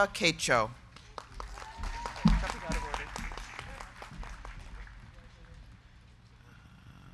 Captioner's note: crowd clapping; crowd cheering